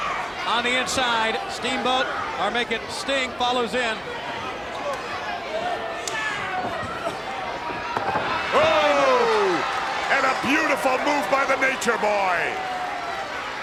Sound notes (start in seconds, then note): 8.2 Ric thudding on ring; 8.6 Jesse exclaiming